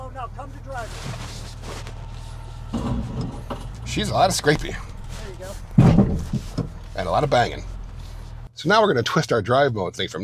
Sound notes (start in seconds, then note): 5.7 truck thuds